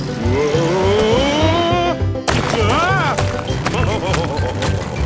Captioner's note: laughing